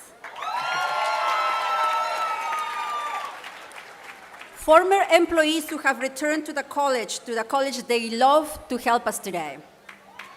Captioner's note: applause